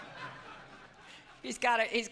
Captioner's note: laughter